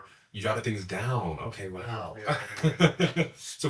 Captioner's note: laughs